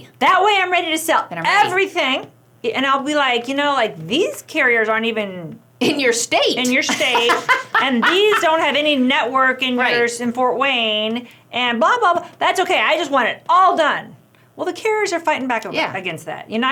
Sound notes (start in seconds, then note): 6.6 laughs